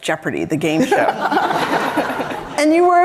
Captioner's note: all laughing